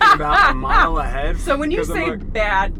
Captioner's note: laughs